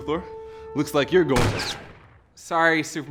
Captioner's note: shot fired